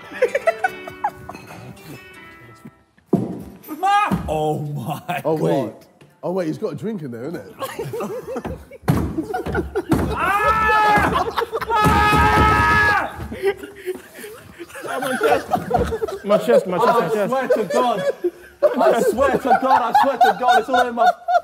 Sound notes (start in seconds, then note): 0.0 Tobi giggling; 10.3 Harry yelling; 13.5 Sidemen laughing; 21.2 Sidemen laughing